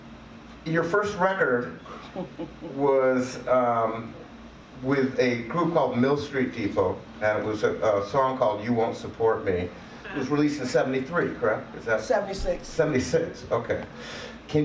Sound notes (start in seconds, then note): 1.8 laughs